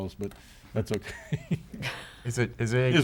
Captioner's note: chuckles